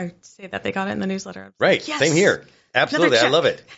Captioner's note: laughs